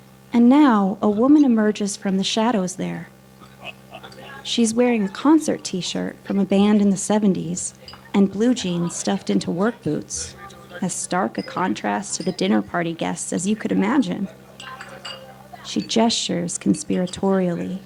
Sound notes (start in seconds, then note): 3.4 background laughter; 14.6 silverware clatters